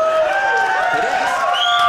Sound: audience cheering

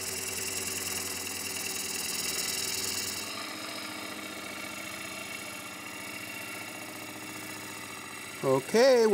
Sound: chisel scraping

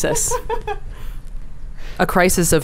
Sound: laughs

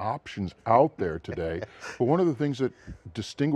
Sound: laughs

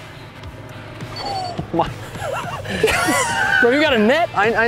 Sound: both laughing

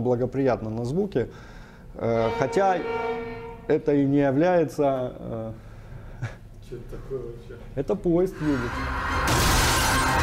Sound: train whistle

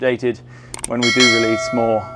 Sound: bell dinging

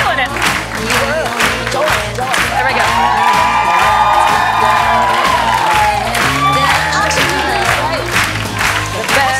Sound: applause

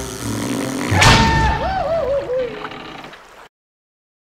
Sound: intense music; echoing scream

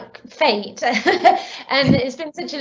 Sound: laughs

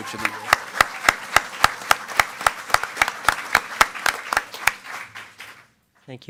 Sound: attendees clapping and cheering

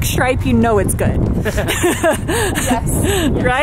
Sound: laughs

